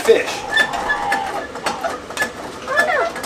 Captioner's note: sleigh jack creaks